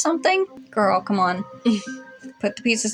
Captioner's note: quiet Laugh